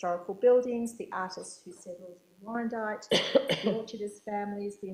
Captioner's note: coughing